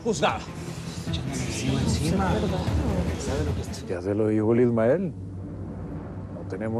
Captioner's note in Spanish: Comentarios al unísono